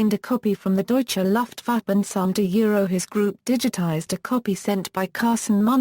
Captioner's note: Turkish